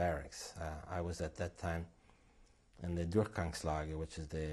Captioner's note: non-english